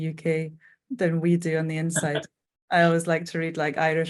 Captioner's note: chuckling